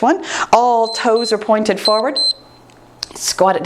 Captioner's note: timer beeps